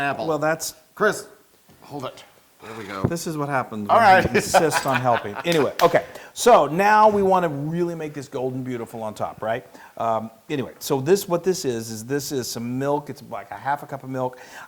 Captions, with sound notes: >> Well that's- >> Chris, hold it. There we go. >> This is what happens when he insists on helping. >> [LAUGH] >> Anyway, okay, so now we really want to make this gold and beautiful on top, right? Anyway, so what this is is this is some milk, it's like half a cup of milk.